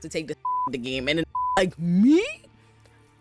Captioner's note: beep